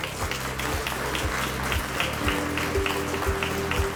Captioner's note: audience applauding; inspirational music